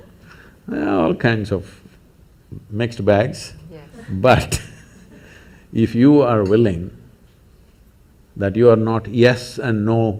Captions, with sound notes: There're all kinds of ... mixed bags but (laughs) if you are willing, that you are not yes and no,